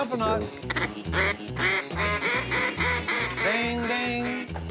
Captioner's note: duck calls